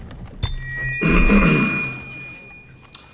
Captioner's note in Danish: rømmer sig